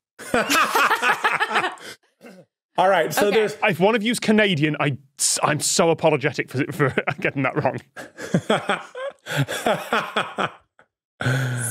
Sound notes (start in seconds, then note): 0.2 laugh heartily; 6.7 laughs